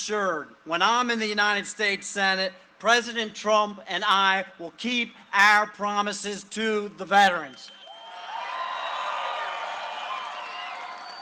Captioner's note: cheering and applause